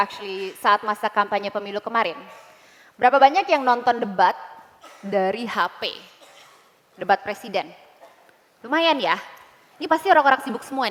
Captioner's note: non-english speech